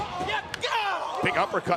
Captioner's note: Xavier screams